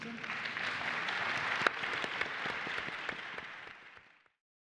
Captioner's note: audience applauding